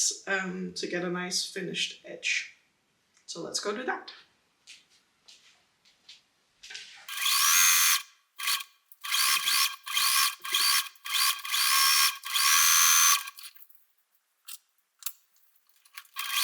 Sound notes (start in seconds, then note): 8.3 sewing machine whirring